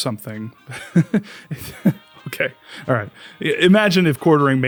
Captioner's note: laughs